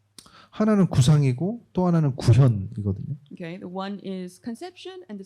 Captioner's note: speaking korean